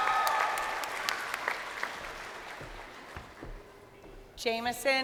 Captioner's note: crowd cheering